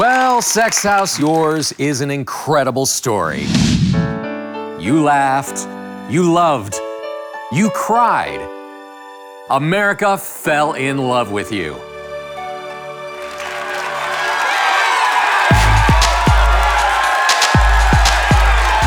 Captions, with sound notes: - Well Sex House, yours is an incredible story. - [Voiceover] You laughed, you loved, you cried. America fell in love with you. [Audience applauds] (electronic music)